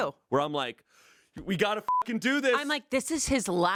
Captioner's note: beep